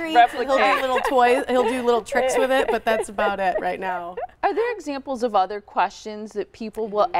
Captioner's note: laughter